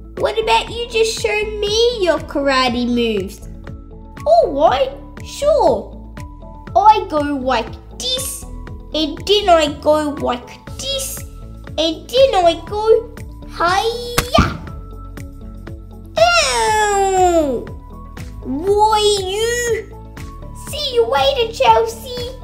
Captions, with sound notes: What about you just show me your karate moves? Alright! Sure! I go like this... and then I go like this... and then I go hhhhaaaayyyaaa! (Thud!) Owwww! Why you...! See you later Chelsea...